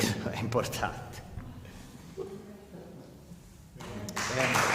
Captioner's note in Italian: Applauso